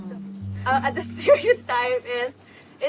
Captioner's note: chuckles